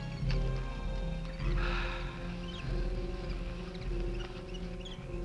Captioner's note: Quent gasping